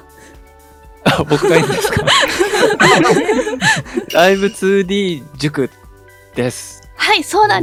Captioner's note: chuckles